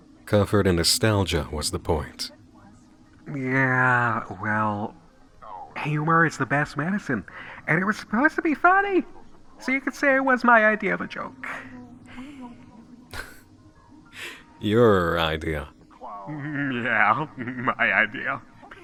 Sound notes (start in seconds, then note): 16.2 chuckling